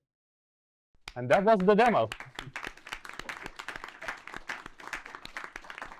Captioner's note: students clapping